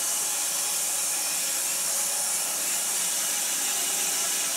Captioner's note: saw whirring